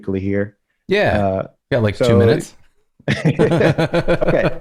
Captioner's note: laughter